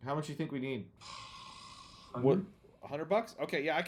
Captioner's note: sighs